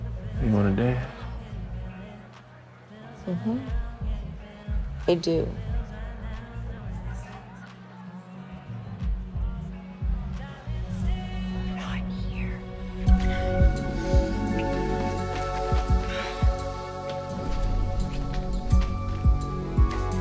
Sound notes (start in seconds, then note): 11.5 whispers